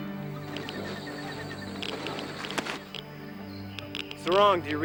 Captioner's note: machine clicking